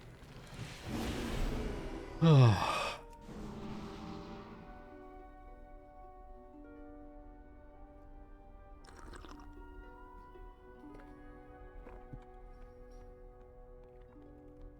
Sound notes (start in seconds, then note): 2.1 sighing; 3.7 soft music